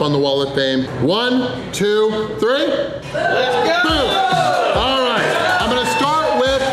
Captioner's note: crowd